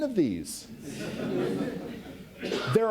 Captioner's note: audience laughs